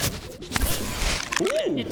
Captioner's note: whoosh